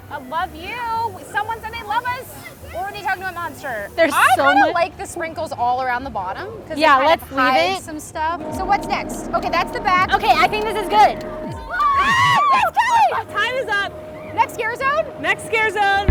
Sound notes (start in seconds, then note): 11.6 screams